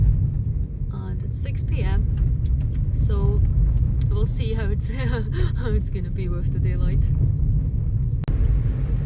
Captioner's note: laughs